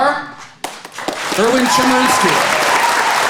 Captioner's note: audience applauding